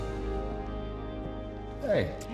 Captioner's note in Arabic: خطوات